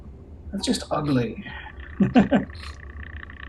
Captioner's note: chuckles